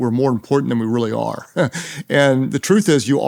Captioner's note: chuckles